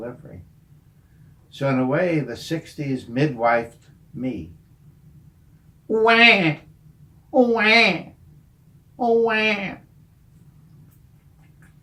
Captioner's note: sounds of baby cries and thumb sucking